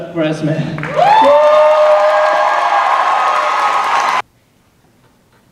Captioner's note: cheers and applause